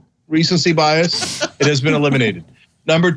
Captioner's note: laugh